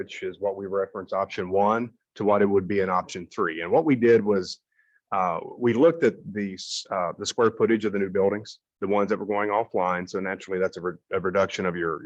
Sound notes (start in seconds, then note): none